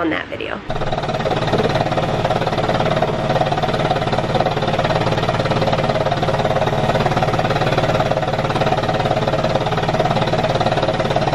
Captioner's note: vest machine vibrating